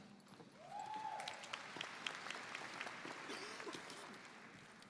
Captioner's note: audience applauding